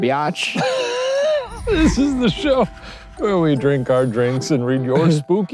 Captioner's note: laughs